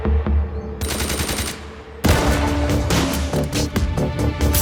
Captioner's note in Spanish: Disparos